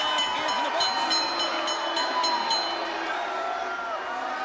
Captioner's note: bell dinging